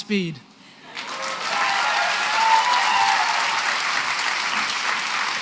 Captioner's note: cheering and applause